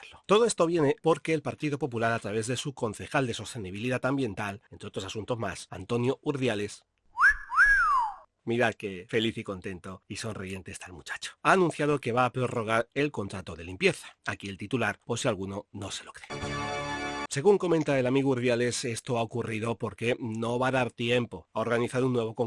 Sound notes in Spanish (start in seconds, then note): 7.1 sonido de silbido